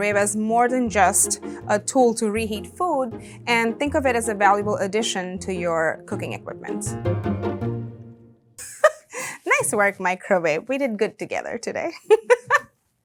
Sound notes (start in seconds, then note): 6.9 playful music; 8.6 laughing; 12.0 laughing